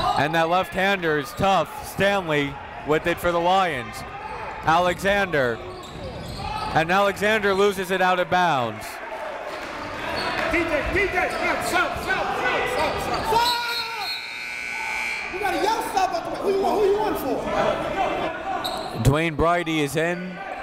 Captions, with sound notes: And that left hander is tough. Stanley with it for the Lions. Alexander, and Alexander lose it outta bounds. (crowd talking) (coaches yelling) (buzzer goes off) (crowd talking) (coaches yelling) Dwayne Brydie is in